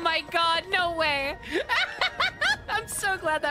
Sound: excited Laughter

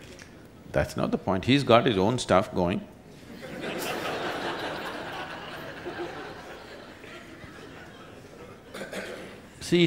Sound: laughter

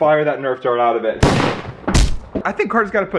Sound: gunshot and thud

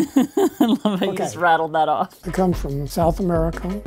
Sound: laughs

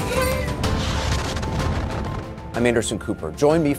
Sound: explosion booming

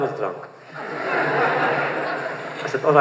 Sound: laughter

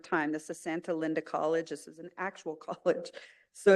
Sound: chuckle

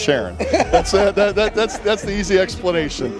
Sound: laughs

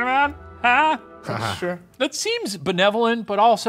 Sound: laughs

